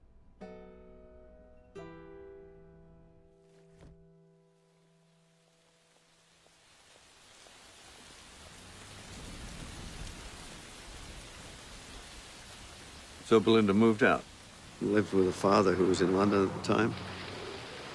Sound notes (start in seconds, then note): 7.6 rain pouring